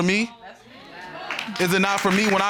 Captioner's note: audience murmurs, exclaims